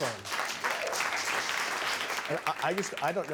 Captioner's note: audience cheering